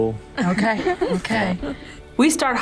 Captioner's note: laughing